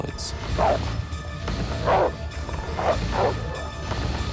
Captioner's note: wolf barking